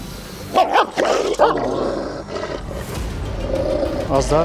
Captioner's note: barking and growling sounds